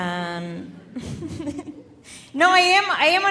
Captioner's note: laughing